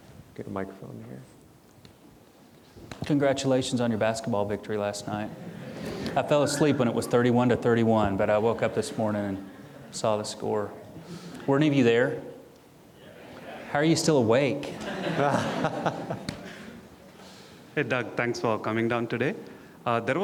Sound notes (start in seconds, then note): 14.6 audience chuckling